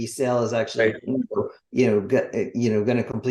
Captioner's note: voice distorting